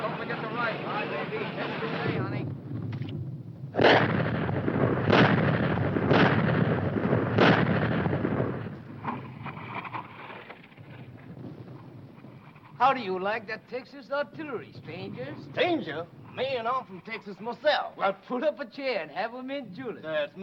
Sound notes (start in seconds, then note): 0.0 speaking foreign language; 4.0 machines blowing